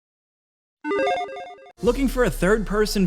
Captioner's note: logo chiming